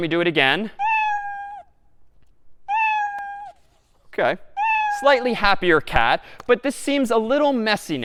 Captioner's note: meowing three times